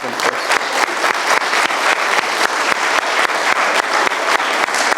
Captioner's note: audience applauding